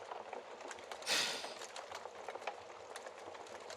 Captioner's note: sighs dramatically